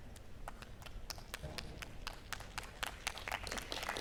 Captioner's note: applause